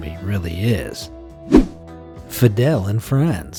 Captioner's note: image whooshing